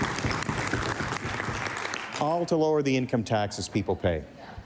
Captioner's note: cheering/applause